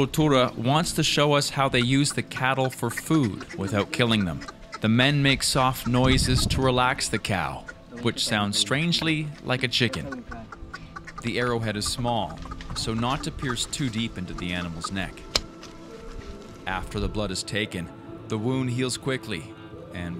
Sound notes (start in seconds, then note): 15.2 bow snaps